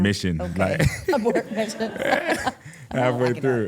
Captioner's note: laughs